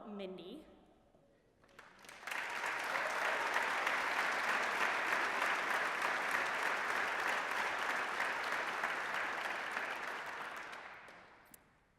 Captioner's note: applause